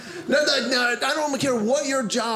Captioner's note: none